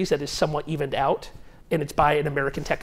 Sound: none

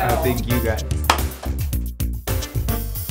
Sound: laughs; claps hands; funky upbeat music

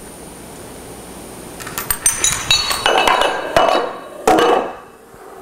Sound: sound of dominoes falling

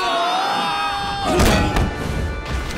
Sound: metal clanking

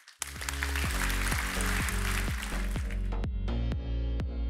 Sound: clapping; upbeat music

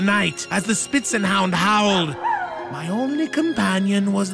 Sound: dog howling

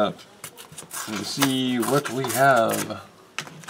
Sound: tearing sounds

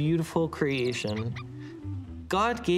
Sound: birds chirping

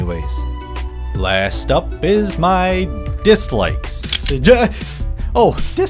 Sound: gun Clicks

